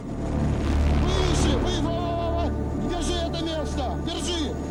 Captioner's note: men yelling in Russian